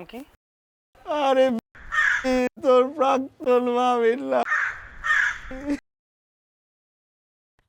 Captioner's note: crow’s sound